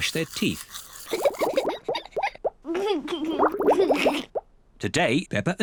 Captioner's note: giggles